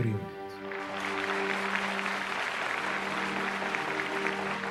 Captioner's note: audience applauding